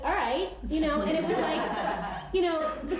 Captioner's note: laughter